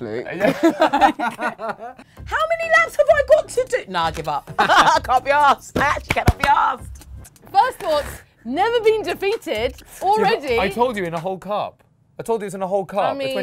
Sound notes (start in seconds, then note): 0.3 both laugh; 4.6 laughs